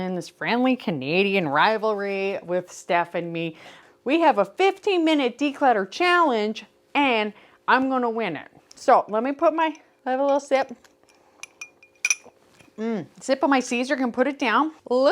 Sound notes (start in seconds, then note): 11.3 ice clinking